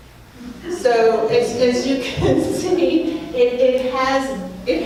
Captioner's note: laughs